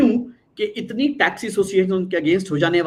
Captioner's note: non-english speech